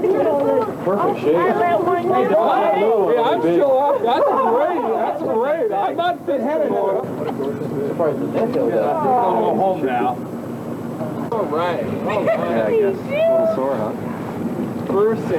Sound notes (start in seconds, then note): 0.0 laughter; 6.0 laughter; 11.8 water sounds